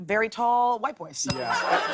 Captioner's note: ding